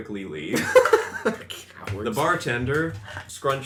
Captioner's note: laughs